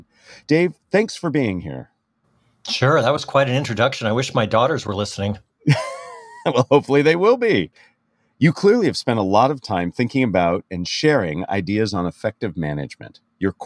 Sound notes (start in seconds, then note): 5.7 laugh